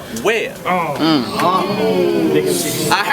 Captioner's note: crowd Reaction